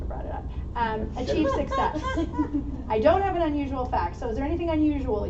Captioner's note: laughter